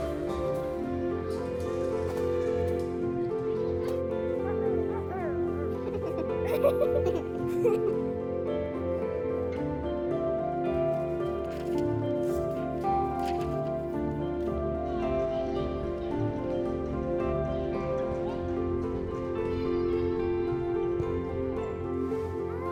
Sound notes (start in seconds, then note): 0.2 upbeat music continues; 5.6 children giggle; 10.9 upbeat music continues; 19.7 upbeat music continues